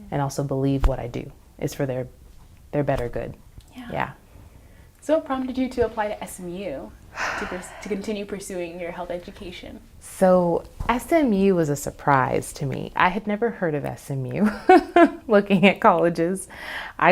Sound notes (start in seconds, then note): 7.1 sighs; 14.5 chuckles